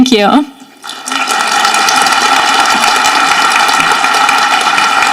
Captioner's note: audience applauding